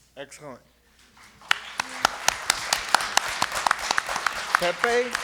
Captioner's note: applause